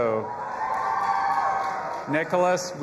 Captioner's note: audience applauding and cheering